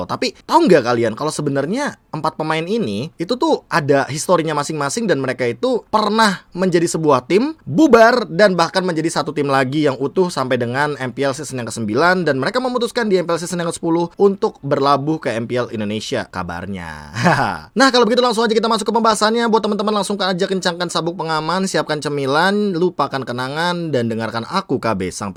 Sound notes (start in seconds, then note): 17.1 Laugh of Inner's People